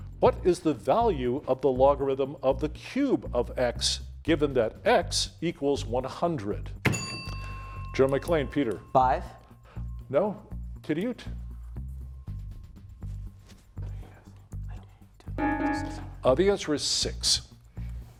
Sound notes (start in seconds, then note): 6.8 bell ringing; 15.4 timer beeping